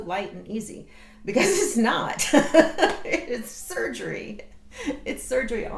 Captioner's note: laughs